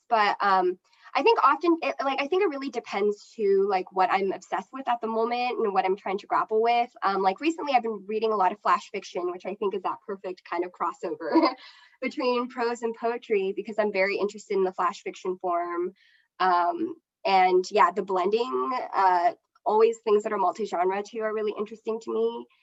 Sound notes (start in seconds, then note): 11.3 chuckles